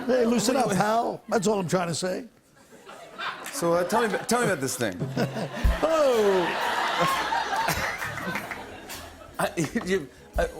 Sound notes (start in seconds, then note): 5.2 laughs; 6.8 laughter; 9.2 stammering